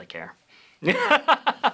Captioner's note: laughs